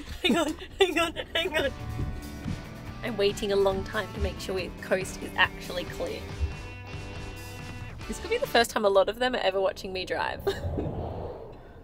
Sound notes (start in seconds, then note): 0.0 panting; 10.4 chuckles